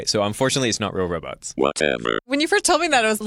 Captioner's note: robot voice